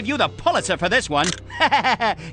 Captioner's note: laughter